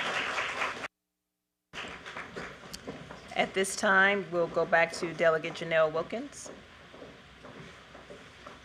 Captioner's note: applause